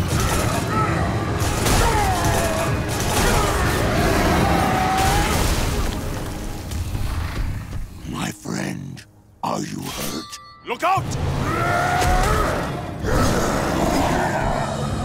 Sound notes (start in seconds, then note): 0.0 grunting; 1.2 grunting, roaring; 11.4 grunting